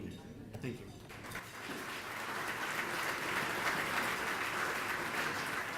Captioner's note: audience applauding